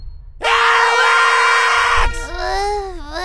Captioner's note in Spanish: haciendo sonar una bocina